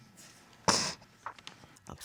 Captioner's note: crying